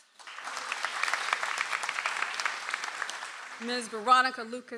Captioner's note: audience applauds